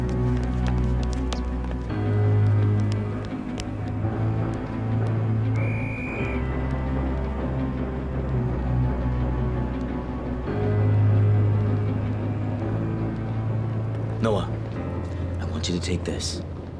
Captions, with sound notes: (whistle trilling) (train chuffing) - Noah, I want you to take this.